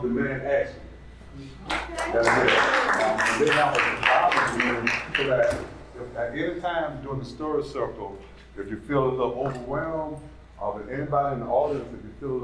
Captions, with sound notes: Moms Against... Moms Demand Action [applause] At any time during the story circle, if